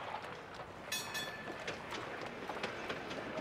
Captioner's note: trolley bell rings